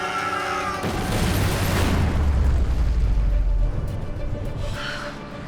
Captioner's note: explosion